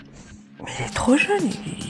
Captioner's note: whisper